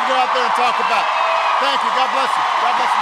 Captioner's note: applause